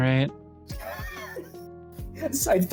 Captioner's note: laughs